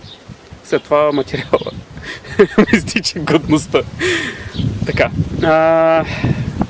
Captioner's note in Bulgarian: Смях